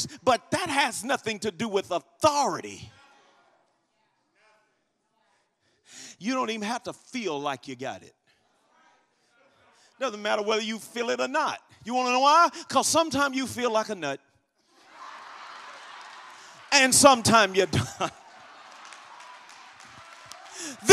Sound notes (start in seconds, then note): 14.8 congregation laughs; 18.7 congregation applauds